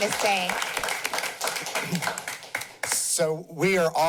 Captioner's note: applause